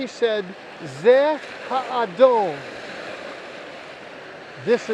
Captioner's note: speaking Hebrew